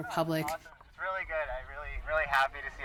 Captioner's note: protestor On Megaphone